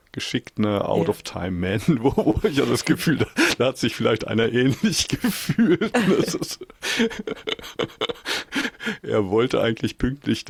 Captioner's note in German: gelächter